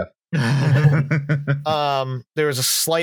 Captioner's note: laughter